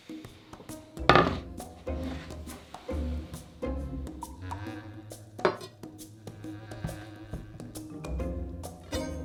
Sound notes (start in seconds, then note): 1.7 board sliding